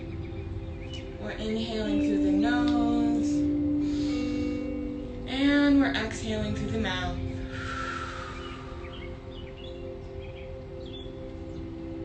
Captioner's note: inhales; exhales